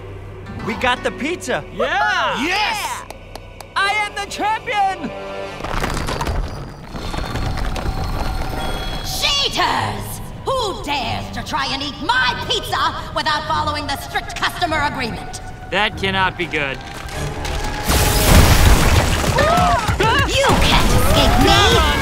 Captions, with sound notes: We got the pizza! - Yeah! - Yes! I am the champion! Cheaters! Who dares to try and eat my pizza without following the strict customer agreement? That cannot be good. [screaming] You can't escape me!